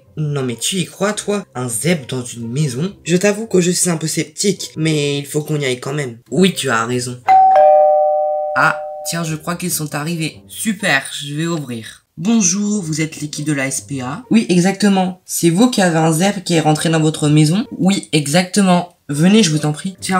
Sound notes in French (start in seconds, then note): 7.3 Sonnerie